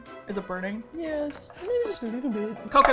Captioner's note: small voice